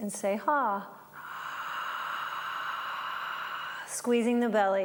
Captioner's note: breathing